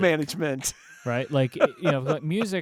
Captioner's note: laughing